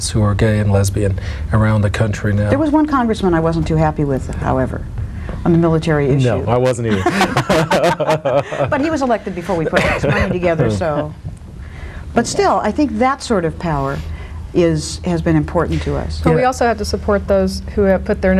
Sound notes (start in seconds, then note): 6.8 both laugh